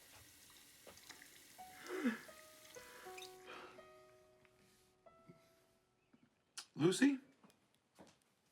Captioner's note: shower